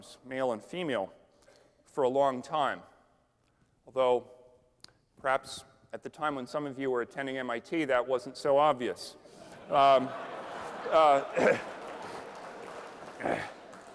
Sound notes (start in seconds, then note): 9.4 laughter